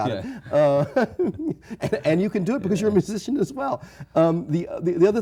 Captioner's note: chuckles